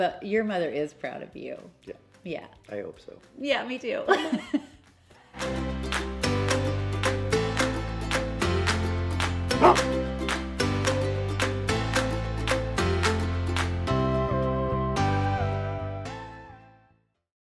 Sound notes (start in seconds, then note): 5.3 upbeat music; 9.5 dog bark